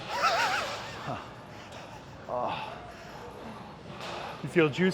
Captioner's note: upbeat rock music continues; Ethan laughing